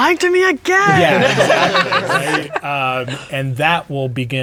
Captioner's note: players laughing